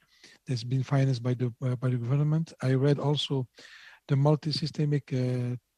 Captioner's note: speaking French